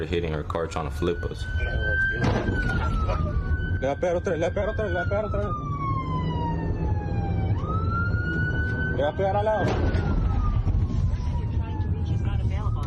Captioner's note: sirens